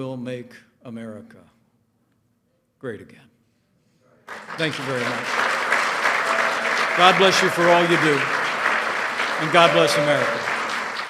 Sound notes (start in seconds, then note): 4.2 applause